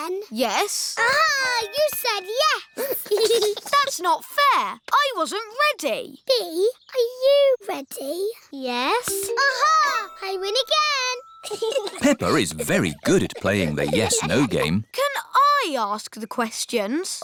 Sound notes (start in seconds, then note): 2.8 giggles; 11.4 chuckles